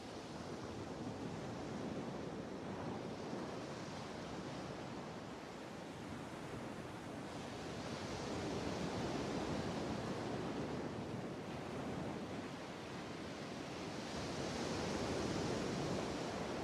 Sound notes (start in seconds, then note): 8.1 sea waves continued washing shore